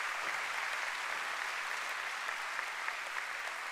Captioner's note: applause